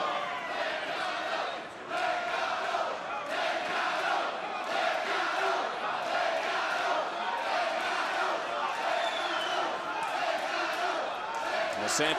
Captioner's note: crowd chants "legado"